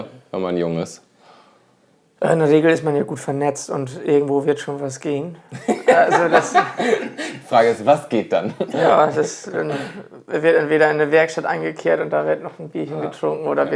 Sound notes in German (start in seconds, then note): 5.5 lacht